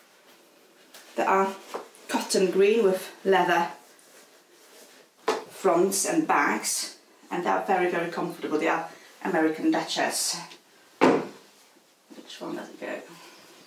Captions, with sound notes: that are cotton green with leather fronts and backs and they're very, very comfortable. They are American Duchess. (boot clonks on floorboards) Which one does it go?